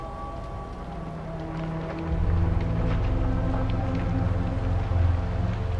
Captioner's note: sirens